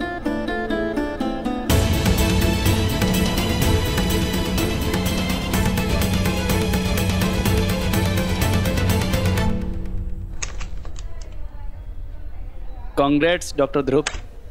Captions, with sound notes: [sad music plays] [door opens] Congrats, Dr. Dhruv.